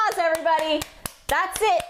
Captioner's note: clap clap clap clap clap